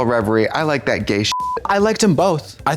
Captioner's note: beep